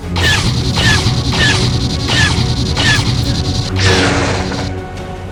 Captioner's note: blasters firing; dramatic music